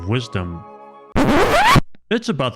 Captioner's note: record scratch sound effect